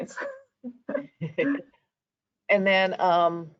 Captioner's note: laughing